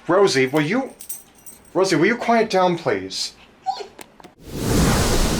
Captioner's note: she whimpers